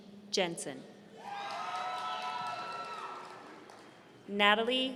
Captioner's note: audience cheering